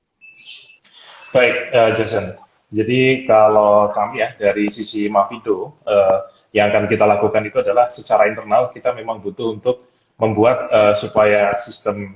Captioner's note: non-english speech